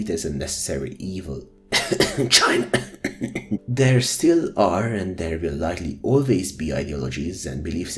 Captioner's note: cough